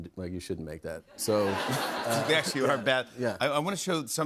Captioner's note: laughter